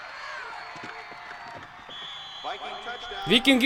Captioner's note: whistle blows